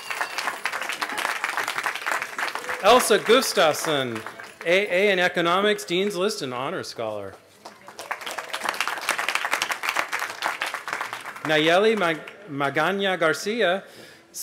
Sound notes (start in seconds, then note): 9.4 applause